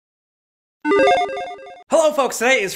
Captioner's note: logo beeps